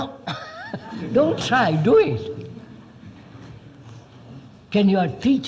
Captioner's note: laughs